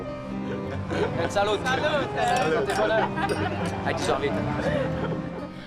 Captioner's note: laughter